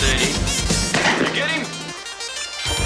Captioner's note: gun firing